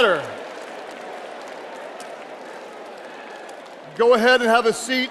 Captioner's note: audience applauding